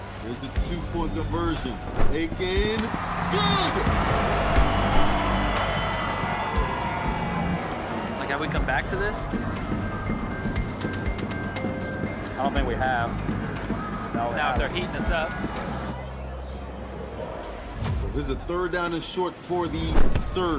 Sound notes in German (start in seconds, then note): 3.8 Pfiffe, angespannte Klänge; 10.0 Angespannte Musik